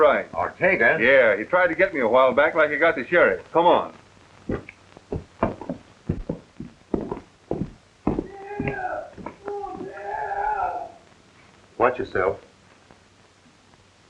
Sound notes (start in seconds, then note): 8.2 moaning